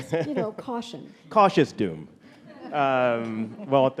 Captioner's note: audience laughing